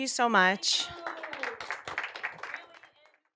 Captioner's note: applause